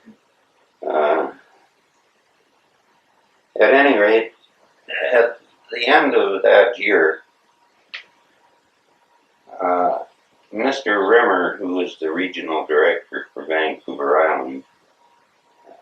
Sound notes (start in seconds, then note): 0.9 laughs